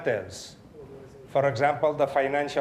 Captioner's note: audience chattering